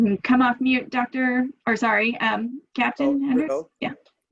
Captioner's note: background chatter